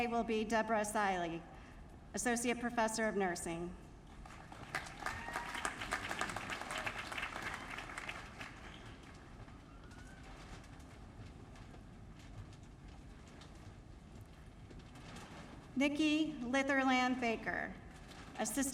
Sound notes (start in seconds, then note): 4.1 applause